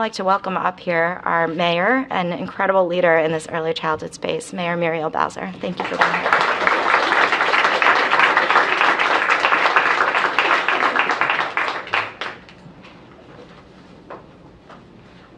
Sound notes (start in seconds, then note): 10.8 applause